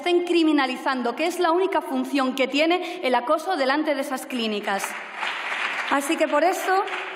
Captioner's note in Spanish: Aplausos